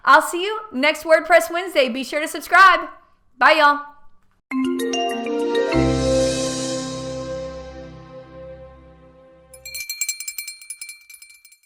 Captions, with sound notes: I'll see you next WordPress Wednesday, be sure to subscribe. 'Bye, y'all. (cheerful digital music) (bell ringing)